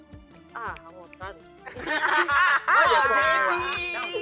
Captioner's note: laughs